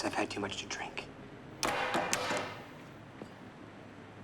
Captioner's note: cue clatters noisily